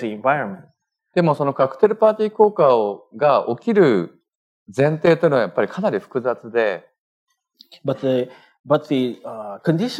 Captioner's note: speaking japanese